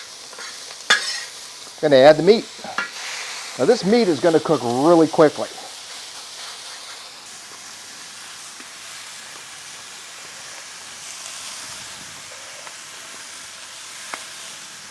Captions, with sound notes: Gonna add the meat. Now this meat is gonna cook really quickly. (discada sizzles)